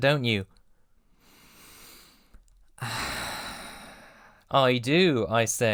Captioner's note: long sigh